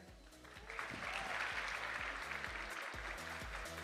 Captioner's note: audience applauding; upbeat music